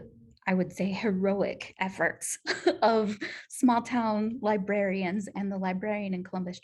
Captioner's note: laughter